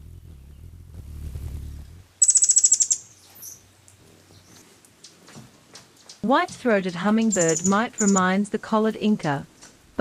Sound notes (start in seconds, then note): 0.0 bird's wing flapping; 2.1 bird chirping